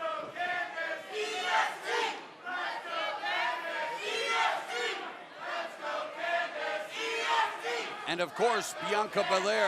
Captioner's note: crowd cheering